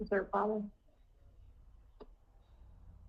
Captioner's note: mouse clicking